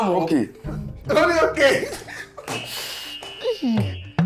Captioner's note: buzzer sounds